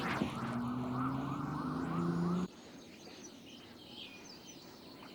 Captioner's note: birds chirping